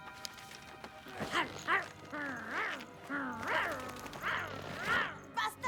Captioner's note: snarl